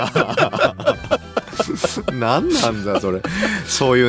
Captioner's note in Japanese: 笑い